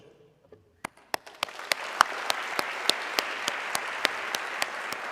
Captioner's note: audience clapping